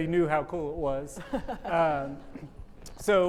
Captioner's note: chuckles